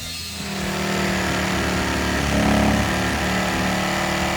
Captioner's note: saw buzzing